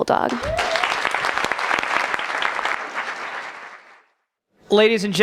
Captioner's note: applause